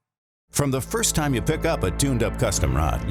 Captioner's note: voiceover